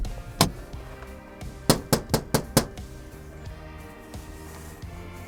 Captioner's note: knocking on door